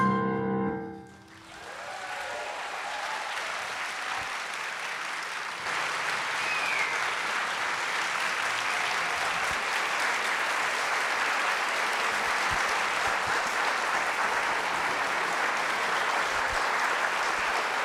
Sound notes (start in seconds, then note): 1.6 audience applauding